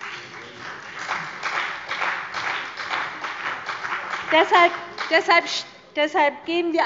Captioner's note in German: Beifall bei der CDU und dem BÜNDNIS 90/DIE GRÜNEN